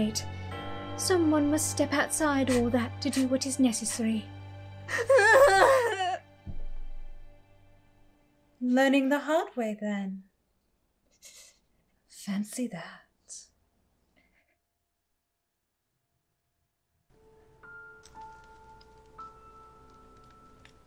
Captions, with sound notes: Someone must step outside all that to do what is necessary. [screams] Learning the hard way, then? Fancy that.